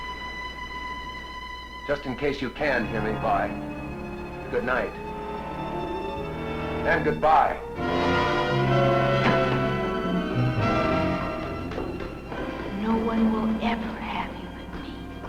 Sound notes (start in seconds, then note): 7.7 tense dramatic music; 9.1 door slamming